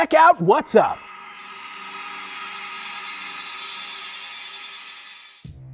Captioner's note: sound Effects